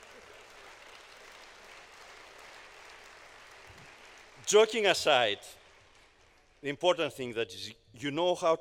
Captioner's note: applause